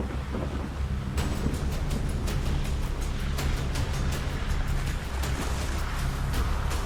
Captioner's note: dramatic music; thunder rumbling